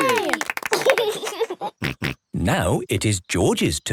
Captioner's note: laughs